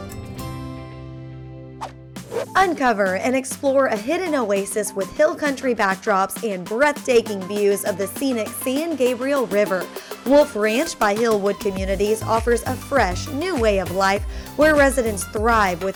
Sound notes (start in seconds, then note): 2.2 whoosh